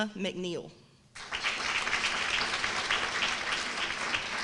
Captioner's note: applause